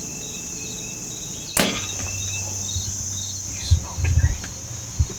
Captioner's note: whispering